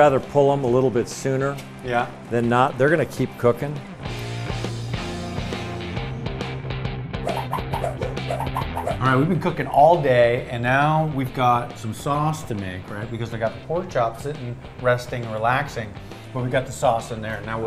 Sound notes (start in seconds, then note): 5.2 rock music; 7.4 whooshing